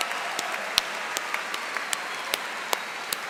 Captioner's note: cheers and Applause